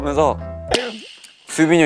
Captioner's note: clap!